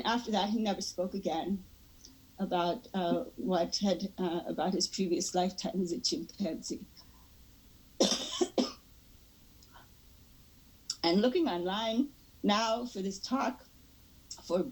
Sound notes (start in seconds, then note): 9.7 coughing